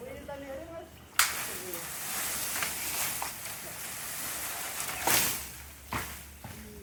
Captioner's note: crashing branches